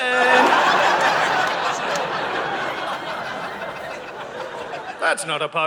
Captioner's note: audience laughing